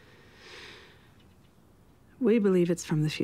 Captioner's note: inhales sharply